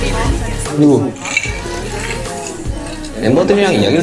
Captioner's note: sip